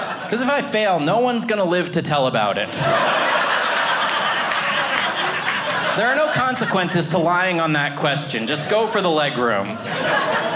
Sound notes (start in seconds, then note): 2.5 audience laughing